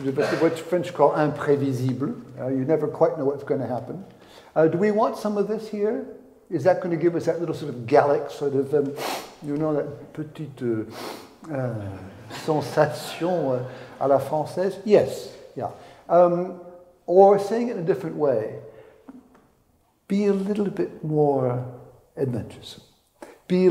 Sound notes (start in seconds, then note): 8.9 sniffs; 11.7 speaks in French